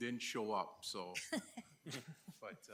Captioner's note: chuckling